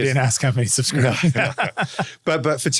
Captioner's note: laughs